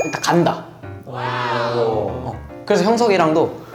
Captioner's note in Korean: 감탄